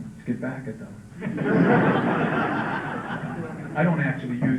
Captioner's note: laughter